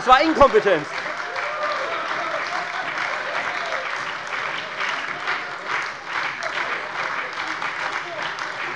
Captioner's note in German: Beifall bei der FDP, der SPD und der LINKEN